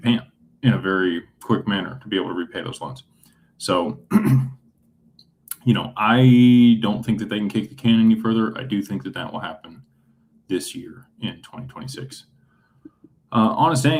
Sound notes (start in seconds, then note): 4.0 clears throat